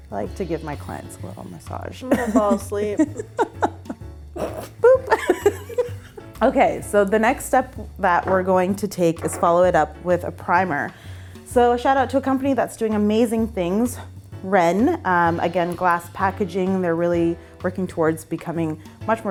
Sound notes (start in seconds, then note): 0.0 bouncy music; 2.0 laughing; 5.5 laughing